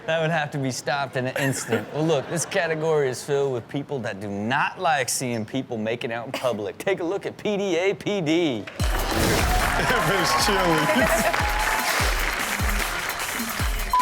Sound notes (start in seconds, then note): 8.8 audience cheers; 10.8 Chanel laughs